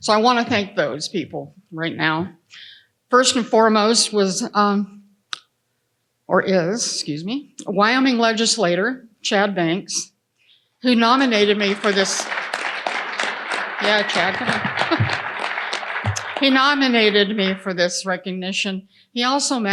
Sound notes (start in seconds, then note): 13.2 audience applauding